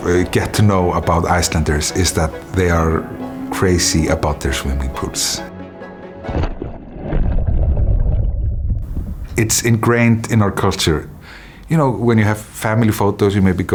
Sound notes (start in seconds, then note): 6.2 splashing